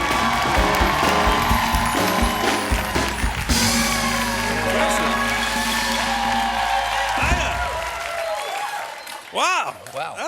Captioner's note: band playing; cheers and applause; band playing; cheers and applause